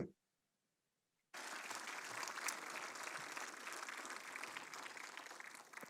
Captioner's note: applause